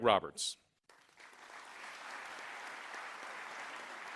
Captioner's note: applause